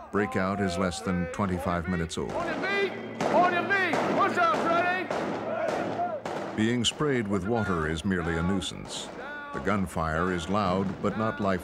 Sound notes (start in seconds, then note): 5.1 yelling and guns firing